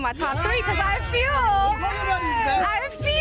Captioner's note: group exclaiming